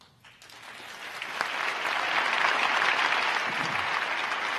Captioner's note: crowd applauding